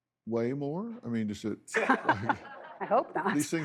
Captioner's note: laughs